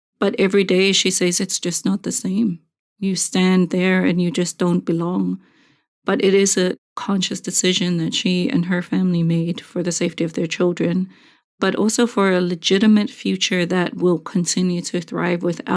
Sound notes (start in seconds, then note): none